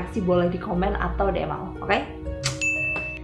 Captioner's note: ding